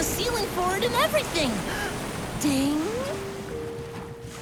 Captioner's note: gasp